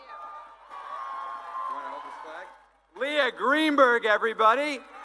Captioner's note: cheering